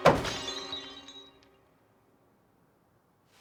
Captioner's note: crash